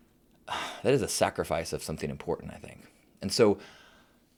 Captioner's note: sighs